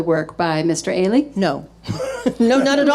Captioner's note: laughing